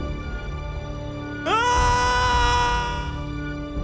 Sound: screams

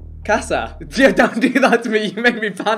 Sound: foreign language

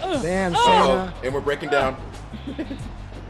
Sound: laugh

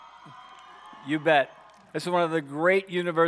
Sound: some audience members cheering

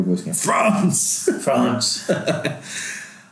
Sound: laughs

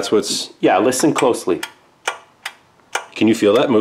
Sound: clicking

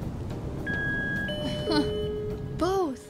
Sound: Sabrina laughs

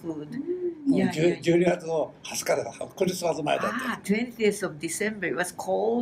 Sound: foreign language

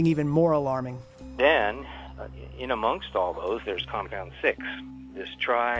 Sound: man over telephone

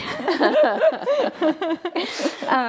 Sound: laughter

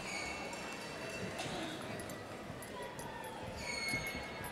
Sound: indistinct chatter

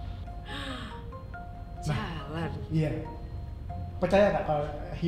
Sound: gasp

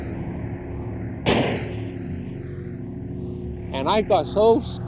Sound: gun fires

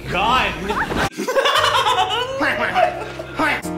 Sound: villanous laughter

